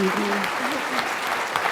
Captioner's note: applause